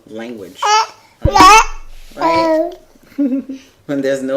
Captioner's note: babbling